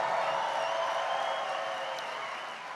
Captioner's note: applause